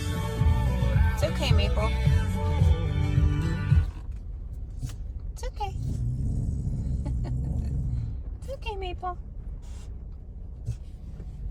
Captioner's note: dog growling at cows